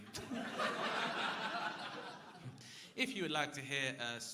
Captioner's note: crowd laughing